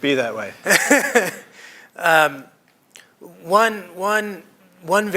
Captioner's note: laughter